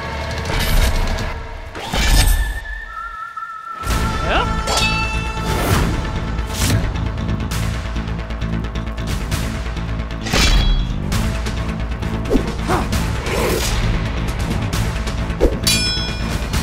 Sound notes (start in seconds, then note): 1.7 tense music plays; 10.2 sword whooshes